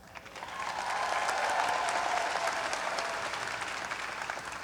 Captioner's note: graduates applaud and cheer